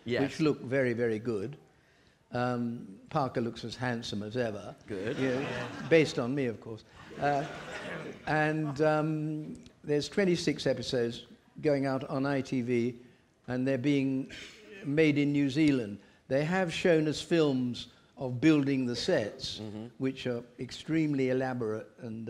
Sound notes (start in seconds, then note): 4.8 audience laughing